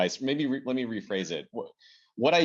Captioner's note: laugh